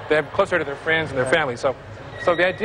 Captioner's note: none